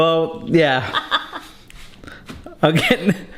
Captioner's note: both laughing